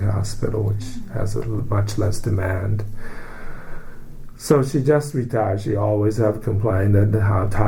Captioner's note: sighs